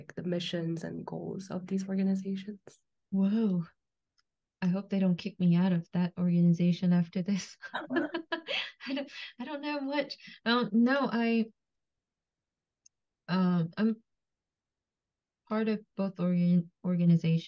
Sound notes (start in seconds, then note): 7.7 laughs